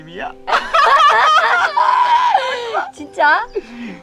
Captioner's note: both laughing